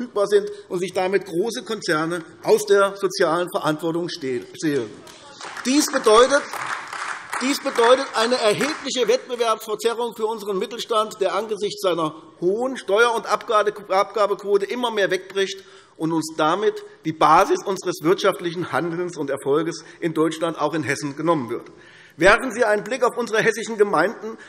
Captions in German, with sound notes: verfügbar sind und sich damit große Konzerne aus der sozialen Verantwortung stehlen. [Beifall AfD] Dies bedeutet eine erhebliche Wettbewerbsverzerrung für unseren Mittelstand, der aufgrund einer hohen Steuer- und Abgabenquote immer mehr wegbricht, womit uns die Basis unseres wirtschaftlichen Handelns und Erfolgs in Deutschland, auch in Hessen, genommen wird. Werfen Sie einen Blick auf unsere hessischen Gemeinden, um zu erkennen,